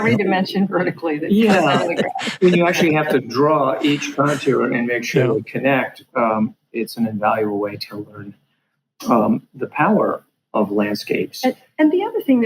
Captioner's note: laughing